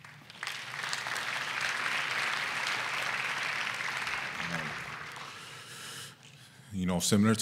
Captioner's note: applause